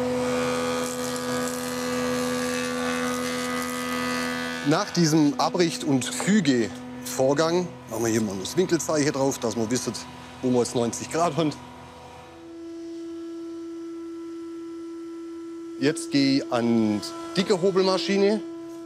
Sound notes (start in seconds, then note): 12.4 machine humming